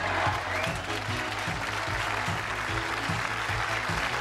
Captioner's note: cheers and applause; bright synth music